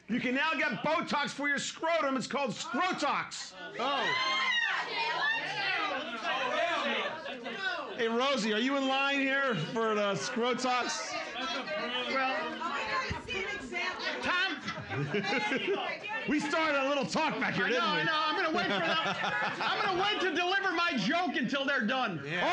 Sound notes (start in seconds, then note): 3.8 women cheering; 10.8 audience mumbling and shouting; 18.4 laughing; 18.4 giggling